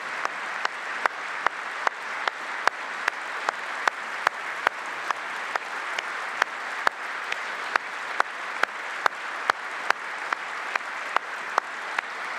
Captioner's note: applause